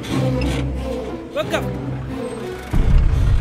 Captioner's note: Speaking in Arabic